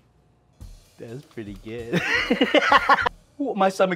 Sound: laughs

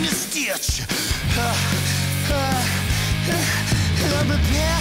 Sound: gasps

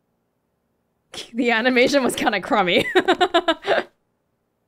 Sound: chuckles

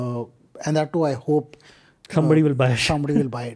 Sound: chuckles

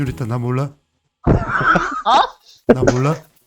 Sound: laughter

